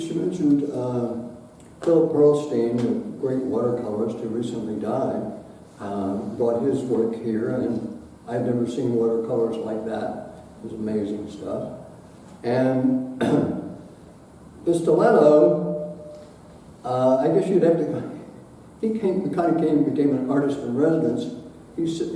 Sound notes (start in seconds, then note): 13.2 clears throat